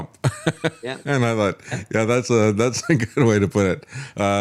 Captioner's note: laughs